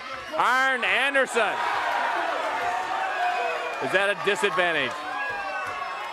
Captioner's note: crowd cheering